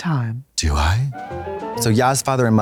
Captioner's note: bright chime